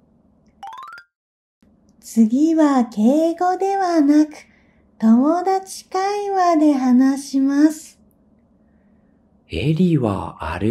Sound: casual conversation

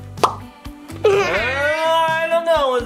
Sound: bubble pops

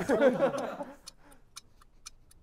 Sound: laughter

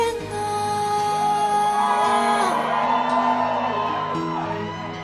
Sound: crowd cheering

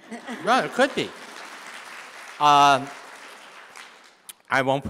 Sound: audience applauding

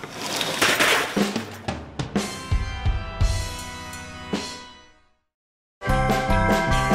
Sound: crash

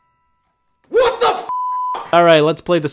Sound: beep

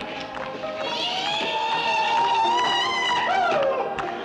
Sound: whooping

